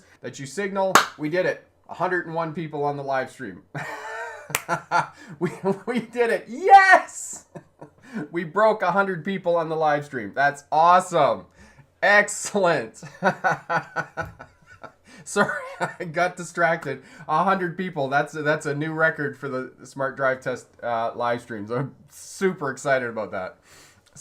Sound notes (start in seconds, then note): 3.7 laughing; 13.0 laughing